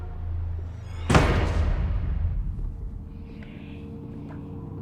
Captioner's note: door slams; eerie music